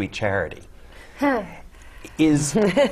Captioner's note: laugh